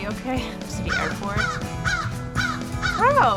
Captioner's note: crow cawing